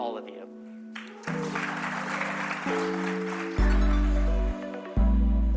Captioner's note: applause